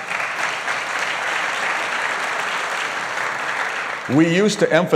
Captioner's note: applause